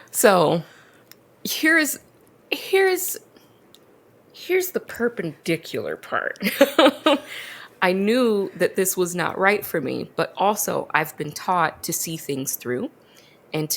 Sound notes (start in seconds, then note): 6.4 laughs